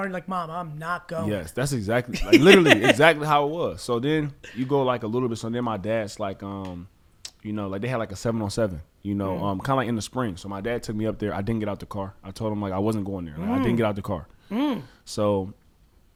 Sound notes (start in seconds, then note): 2.1 laughs